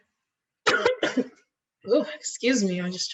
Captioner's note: coughing